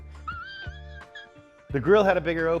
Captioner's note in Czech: nucený smých